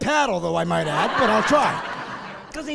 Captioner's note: laughing